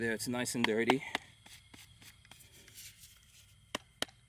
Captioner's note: tapping; brushing